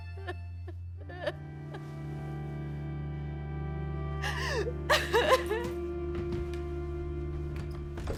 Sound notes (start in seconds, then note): 4.2 sobbing